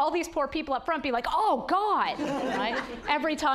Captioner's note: audience laughing